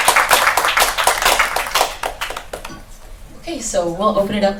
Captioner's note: applause